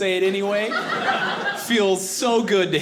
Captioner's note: audience laughing